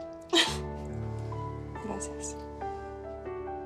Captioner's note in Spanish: Ríe